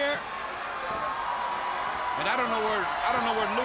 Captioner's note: crowd cheering